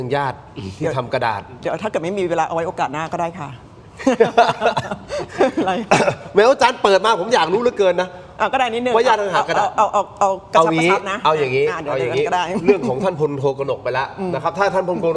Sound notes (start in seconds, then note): 4.0 laughs; 5.8 clears throat